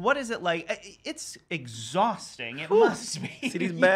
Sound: laughs

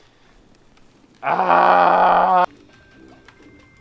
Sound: pained scream

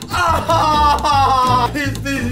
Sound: yelling

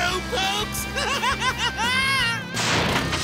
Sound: laughing

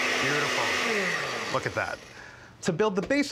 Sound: blender stops

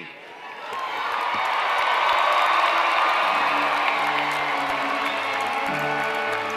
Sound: applause

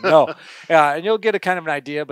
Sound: laughs

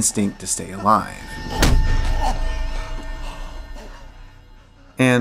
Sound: smack

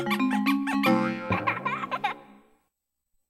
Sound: boing, child laughing

